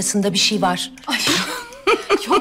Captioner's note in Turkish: Gülme sesi